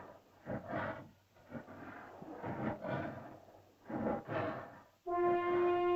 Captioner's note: dinosaur growls; dinosaur breathes heavily; suspenseful music